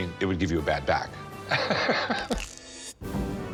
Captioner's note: laughs